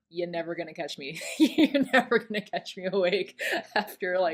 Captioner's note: lauhging